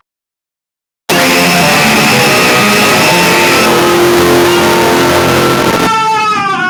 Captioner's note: loud sound intensifies